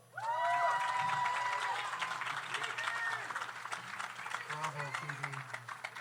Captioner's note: audience cheers; audience applauds